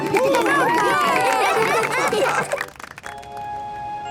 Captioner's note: cheering, applause